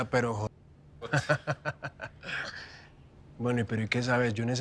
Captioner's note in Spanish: Risas